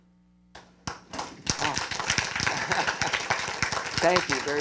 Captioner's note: applause